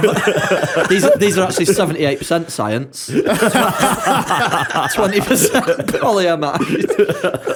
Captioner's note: laughter